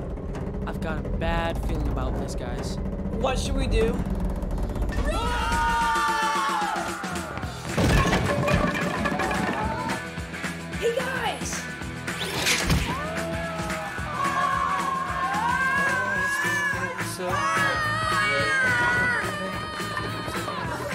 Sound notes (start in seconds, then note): 12.8 screaming; 12.8 all Screaming